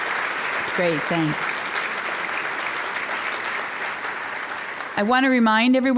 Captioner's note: applause; applause